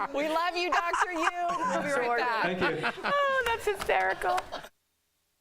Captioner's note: laughter